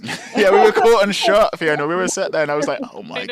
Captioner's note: laughs